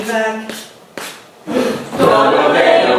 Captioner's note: gasp